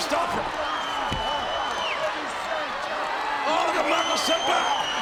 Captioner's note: audience cheering